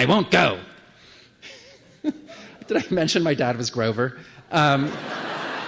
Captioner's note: laugh; laughter